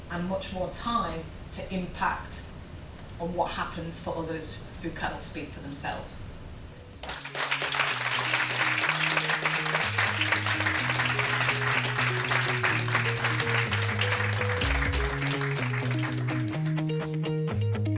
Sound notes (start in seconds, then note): 7.5 audience applause; 9.8 rock music